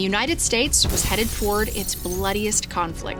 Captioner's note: glass breaking